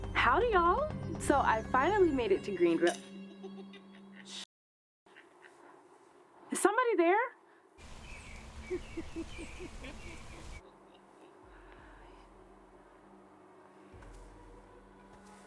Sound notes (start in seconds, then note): 3.4 person cackling; 8.7 person cackling; 12.2 suspenseful music